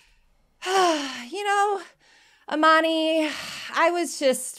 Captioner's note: sighs